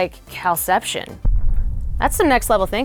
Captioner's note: rumbling